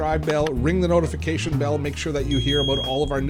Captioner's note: mouse click; bell rings